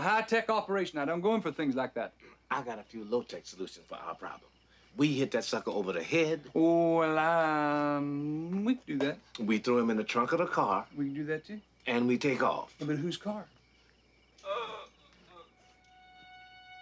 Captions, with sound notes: I run a high-tech operation. I don't go in for things like that. I got a few low-tech solutions. We hit that sucker over the head... Ooh, well... We could do that. - We throw him in the trunk of the car. - We could do that, too. - And we take off. - But whose car? (Groaning)